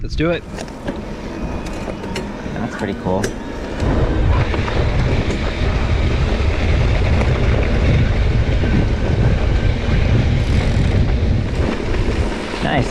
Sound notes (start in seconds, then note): 1.1 bike humming; 5.3 dirt rustling; 5.3 wind gushing; 10.3 bike ratchets